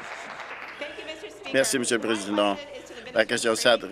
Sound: applause; cheers

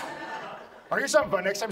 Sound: audience laughs

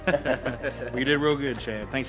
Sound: group laughs

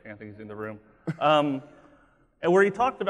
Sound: laughing

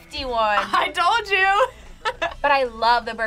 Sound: chuckles

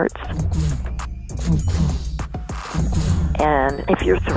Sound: heart beating

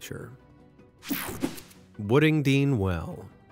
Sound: logo whooshing

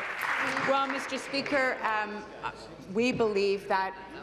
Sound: applause

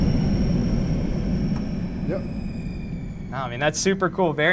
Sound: engine powering down

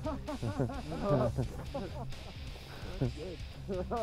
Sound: laughter

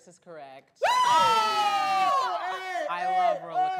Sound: cheering; screams

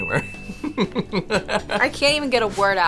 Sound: laughing

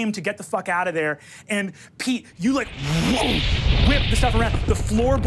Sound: air whooshing

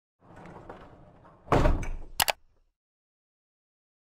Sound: bump and click

